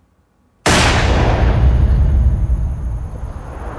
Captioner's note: booming